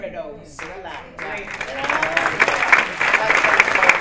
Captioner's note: applause